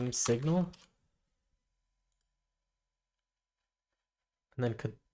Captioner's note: silence